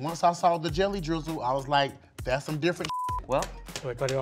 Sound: beep

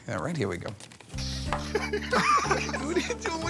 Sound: laughter

